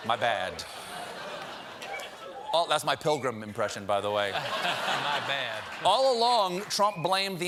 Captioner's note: laughter